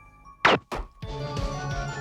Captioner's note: gunshot firing; energetic music